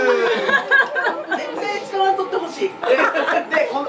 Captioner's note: laughs